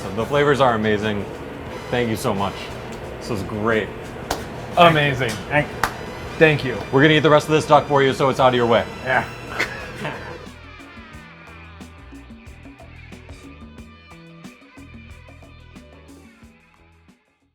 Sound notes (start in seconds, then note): 9.1 laughing